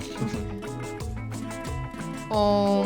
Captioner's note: chuckles